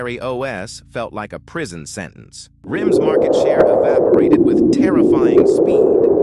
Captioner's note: SFX: wind howling effect